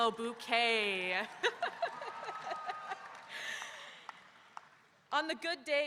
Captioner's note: audience cheering; laughing